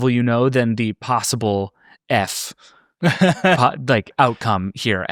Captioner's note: laughing